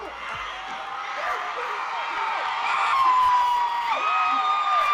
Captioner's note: audience cheering loudly